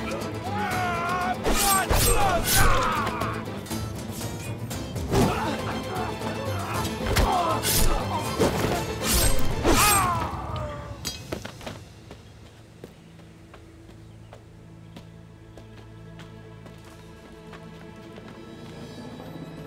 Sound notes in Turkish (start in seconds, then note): 4.9 Kılıç sesleri; 4.9 Dövüş sesleri; 11.2 Ayak sesleri; 12.7 Kuş cıvıltısı sesleri